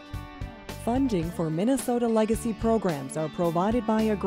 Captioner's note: voiceover